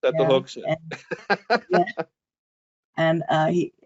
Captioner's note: laughing